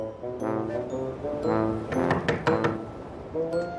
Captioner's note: knocking